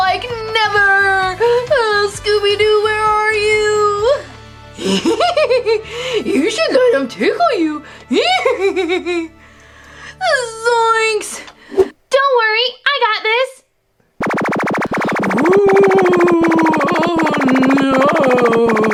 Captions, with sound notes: - Like, never! Scooby Doo, where are you? - (laughs) You should let him tickle you, yee hee hee! - Zoinks! - Don't worry, I got this! (Get-A-Ghost Gizmo Gadget blasts) - Wooooooo! Oh, noooooo!